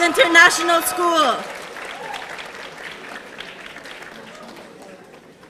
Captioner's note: audience applauding